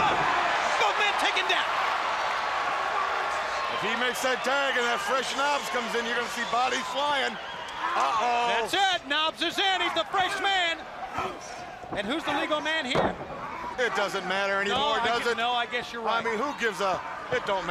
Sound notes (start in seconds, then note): 2.1 crowd cheering; 2.7 crowd chatter